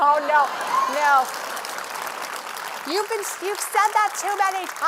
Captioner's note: applause